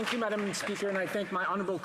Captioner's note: applause